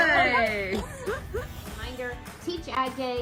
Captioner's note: woman laughs